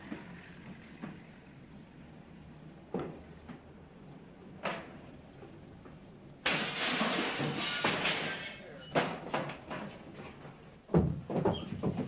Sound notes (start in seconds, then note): 0.0 muffled Crashes & Thuds; 6.4 glass breaking